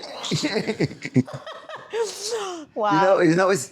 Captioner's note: laughter